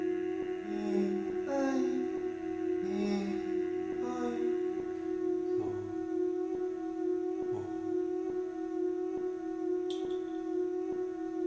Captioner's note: short bursts of humming